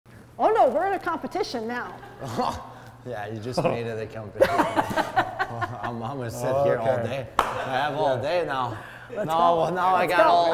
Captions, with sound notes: - Oh, no, we're in a competition now. - Oh! Yeah, you just made it a competition. (people laughing) I'm gonna sit here all day. - All day. - I have all day now. - Now I got all day all of a sudden.